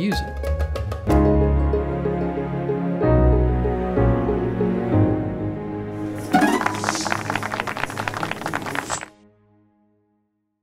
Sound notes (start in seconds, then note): 6.1 applause